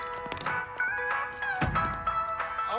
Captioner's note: door closes